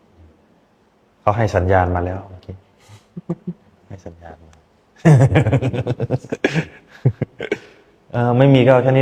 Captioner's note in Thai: เสียงหัวเราะ